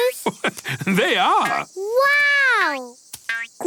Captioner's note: laugh